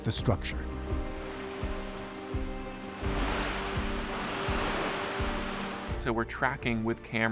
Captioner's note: waves lapping